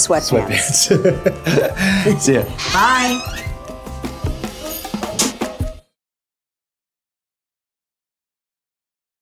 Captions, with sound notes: - Sweatpants. [laughs] See ya. - Bye. [door squeaking]